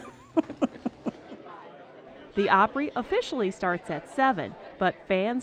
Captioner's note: laughing